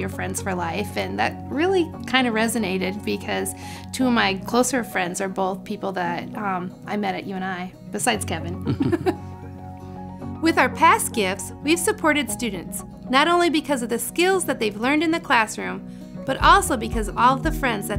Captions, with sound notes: friends for life," and that really kinda resonated because two of my close friends are both people that I met at UNI.. besides Kevin. (both laugh) With our past gifts, we've supported students not only because of the skills that they've learned in the classroom, but also because of all of the friends that